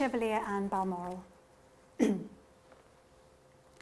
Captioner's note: clears throat